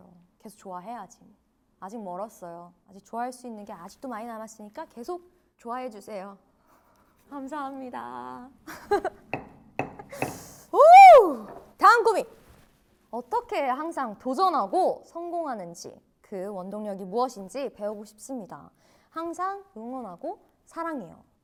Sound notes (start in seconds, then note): 10.1 ohh